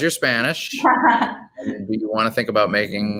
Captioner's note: laughing